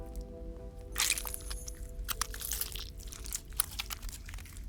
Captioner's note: flesh squelches